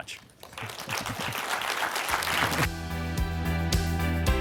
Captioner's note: audience applauding; upbeat music